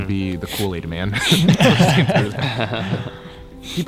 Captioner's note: all laugh